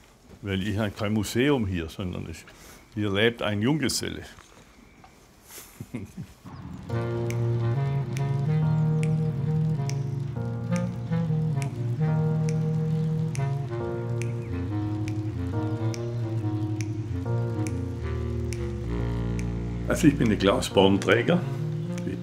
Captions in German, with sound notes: Weil das ist ja kein Museum hier, sondern hier lebt ein Junggeselle. (Er lacht leise.) (Lässige Musik) Also, ich bin der Klaus Baumträger.